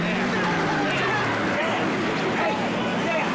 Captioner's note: engine revving, tires screeching